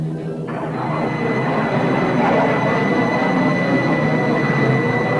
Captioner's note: planes engines revving